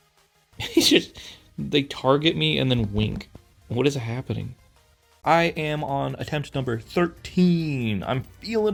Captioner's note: laughs